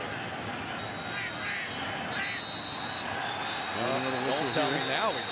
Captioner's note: whistle